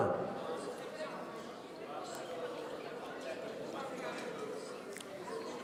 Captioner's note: people in the audience conversing